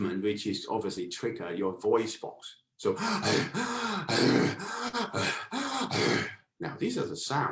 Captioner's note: heavy panting